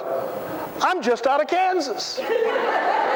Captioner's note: laughter